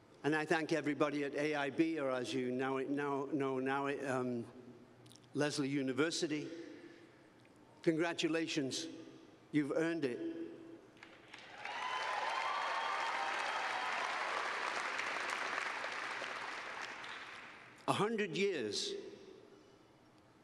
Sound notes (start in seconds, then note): 11.2 cheers and applause